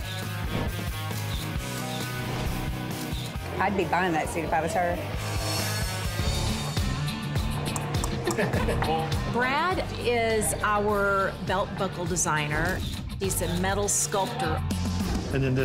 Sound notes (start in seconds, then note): 0.1 camera snaps; 7.6 clicks tongue; 7.9 laughing